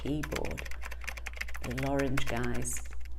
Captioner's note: keyboard keys clacking